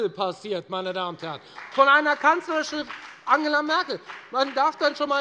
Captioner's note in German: Beifall bei der FDP